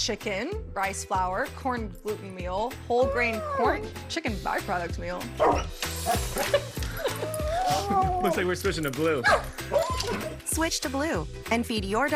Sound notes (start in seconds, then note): 6.1 laughing